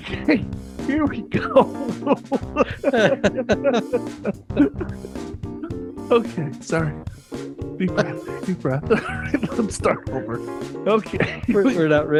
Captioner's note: laughing; laughing